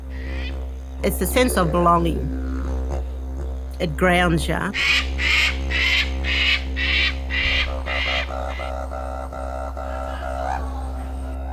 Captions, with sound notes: It's the sense of belonging. (didgeridoo humming) It grounds you. (bird squawking) (didgeridoo humming)